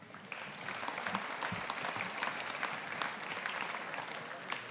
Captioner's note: audience applauding